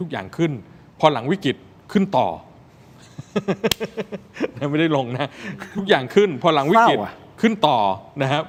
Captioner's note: laughter